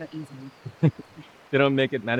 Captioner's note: chuckles